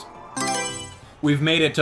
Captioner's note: Mario Selection Sound